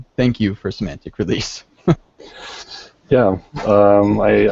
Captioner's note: laughs